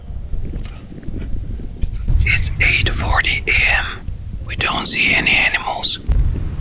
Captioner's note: whispers